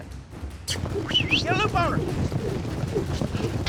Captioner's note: whistles